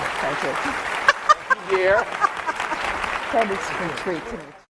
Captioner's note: applause; laughing